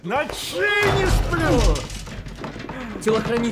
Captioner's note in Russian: стон, грохот, звон